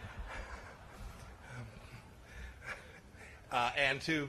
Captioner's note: laughter